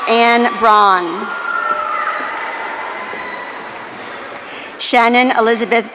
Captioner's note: audience cheering